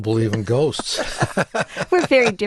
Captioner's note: laughs